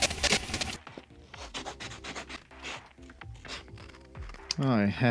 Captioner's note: printing accelerates; scissors cutting paper